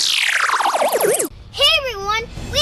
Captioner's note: electronic buzz